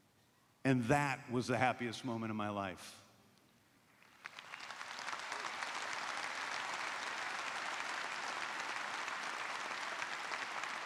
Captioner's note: applause